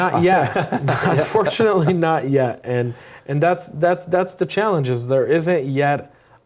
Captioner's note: laugh